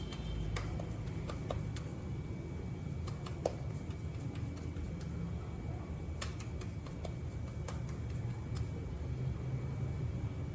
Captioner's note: kneading arepas, dough sizzles